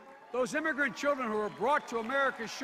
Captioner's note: audience cheers